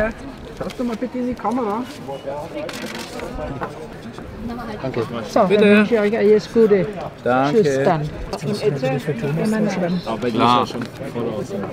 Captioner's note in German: Gemurmel